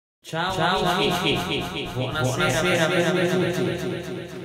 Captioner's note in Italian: con un po' di Echo